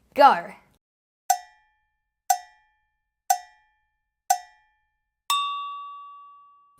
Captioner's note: cowbell tolls rhythmically; bell dings